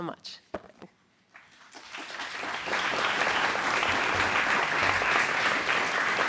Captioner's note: applause